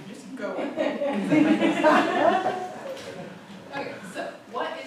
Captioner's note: laughter